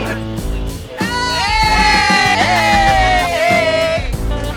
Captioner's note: cheering